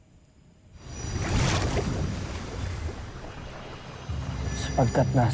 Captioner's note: sparkling whoosh, energy swirling